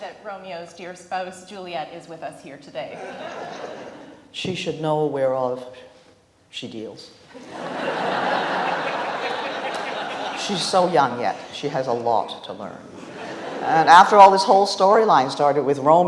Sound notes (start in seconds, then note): 7.3 audience laughs